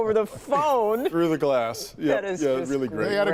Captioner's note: laughter